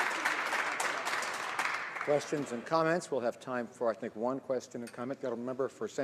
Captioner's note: some Applause